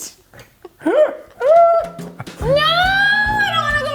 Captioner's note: both laughing